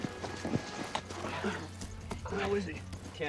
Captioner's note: moan